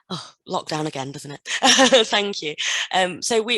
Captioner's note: laughs